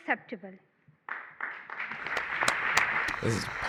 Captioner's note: applause